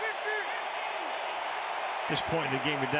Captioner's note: onfield chatter